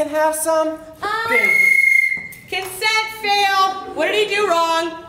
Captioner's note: whistle